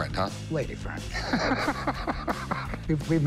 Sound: laughs

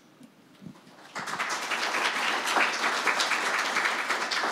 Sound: audience clapping

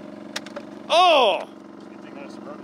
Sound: yells

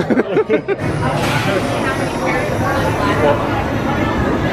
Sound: guests chattering

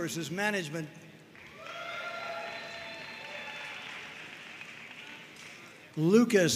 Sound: audience cheering and applauding

